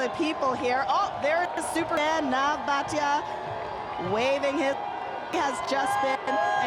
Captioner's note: cheering